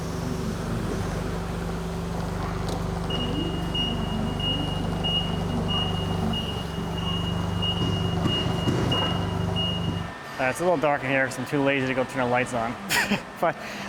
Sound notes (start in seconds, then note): 3.6 beeping